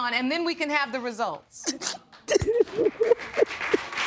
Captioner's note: sobbing; audience applauding